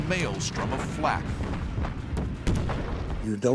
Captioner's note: explosions